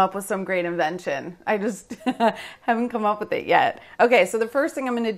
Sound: laughs

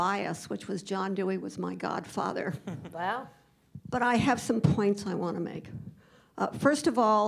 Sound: laughter

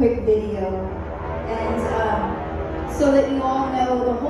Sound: airplane motor humming

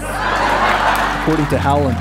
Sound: laughter

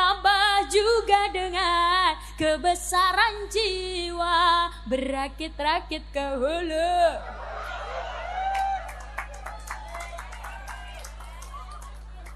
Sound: applause

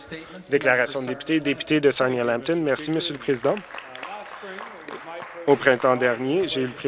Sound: some Applause

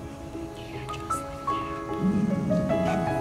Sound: growl

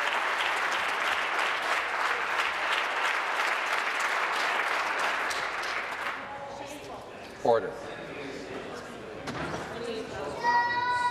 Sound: applause

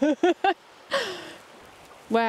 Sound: laughing

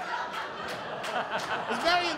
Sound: laughter

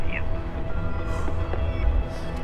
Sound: answering machine beeps

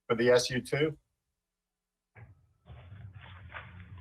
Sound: ~audio cuts out~

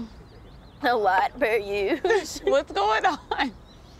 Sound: laughs

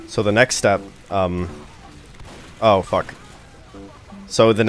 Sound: gun fires

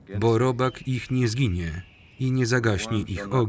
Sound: bird screeching

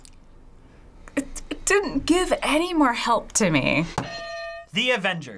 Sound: hitting bell; buzzer

